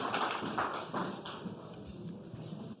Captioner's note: applause